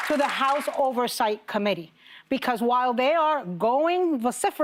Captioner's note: applause